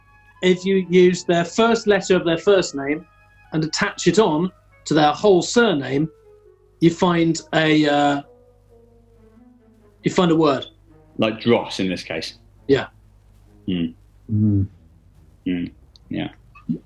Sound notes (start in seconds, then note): none